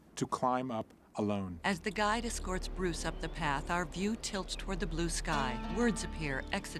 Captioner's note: bird squawking